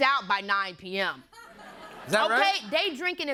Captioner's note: laughter